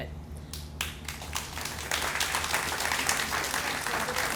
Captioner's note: applauding